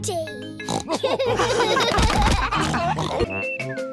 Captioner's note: oinks; all laugh